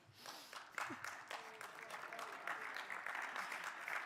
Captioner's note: crowd applauding